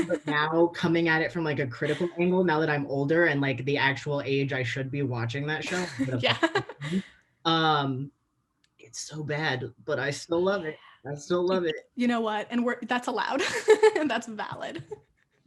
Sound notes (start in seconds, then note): 5.6 laughing; 13.4 laughter